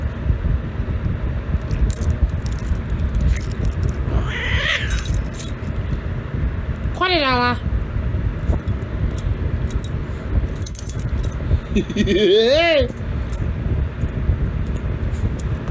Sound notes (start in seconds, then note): 3.9 Caprice yowls at Ella; 11.6 Ella laughs